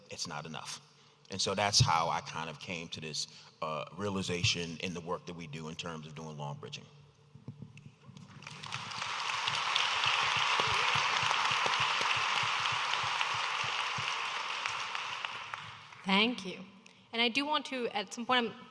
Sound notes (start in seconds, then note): 8.2 audience applauding